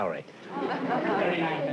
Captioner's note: laughter